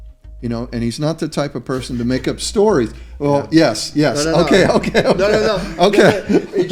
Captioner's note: laughter